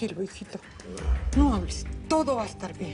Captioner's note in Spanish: Gemido